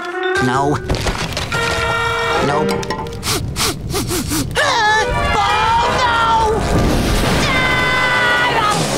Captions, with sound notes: No. Nope. [sniffing] [gasps] Oh no! [screaming]